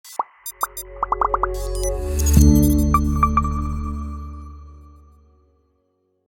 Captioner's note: electronic beeps trill; ethereal electronic music